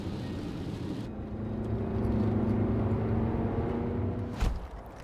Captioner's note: car accelerating